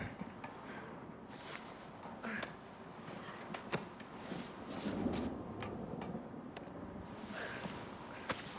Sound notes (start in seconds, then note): 3.8 distant thunder rumbles